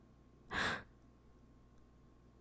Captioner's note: gasp